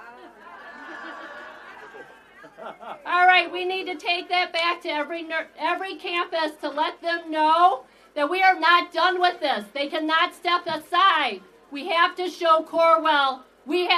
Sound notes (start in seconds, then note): 3.8 laughter